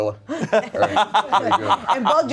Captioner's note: everyone laughs